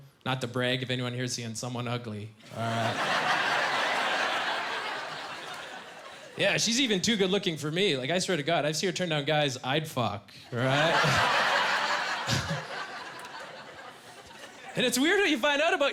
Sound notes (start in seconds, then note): 10.5 laughing